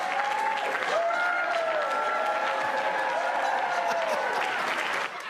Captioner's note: laughter